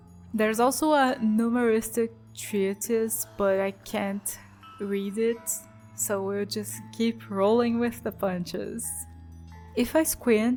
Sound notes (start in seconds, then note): none